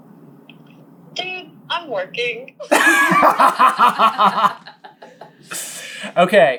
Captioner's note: laughter